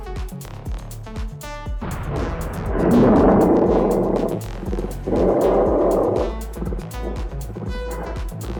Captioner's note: explosion sounds. defeated ape sounds